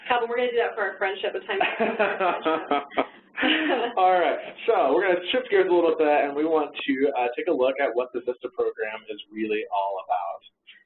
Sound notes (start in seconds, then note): 1.6 both laughing; 2.2 laughing